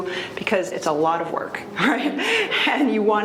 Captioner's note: laughs